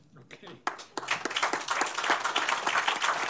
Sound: applause

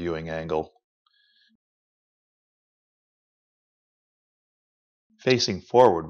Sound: silence

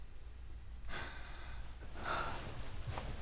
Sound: Youngwon breathing in and out loudly

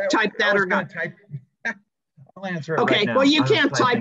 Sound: laughs

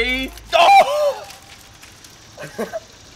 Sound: exclaiming; laughing

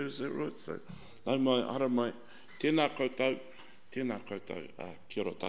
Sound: speaks in foreign language

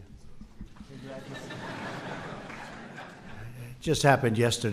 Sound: audience laughs

